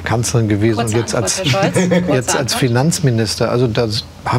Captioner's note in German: Lachen